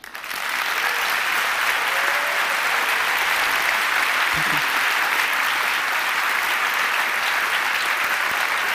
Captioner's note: applause